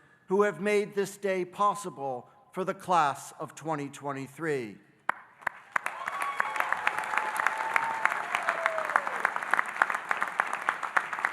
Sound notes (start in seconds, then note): 5.4 audience applauding and cheering